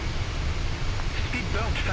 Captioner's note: radio chatter